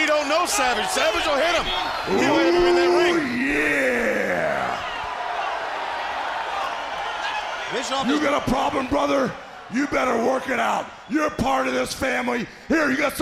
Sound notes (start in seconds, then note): 3.7 crowd chatter; 5.5 crowd cheering